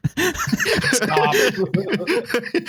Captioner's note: laughter